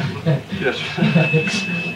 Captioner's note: laughter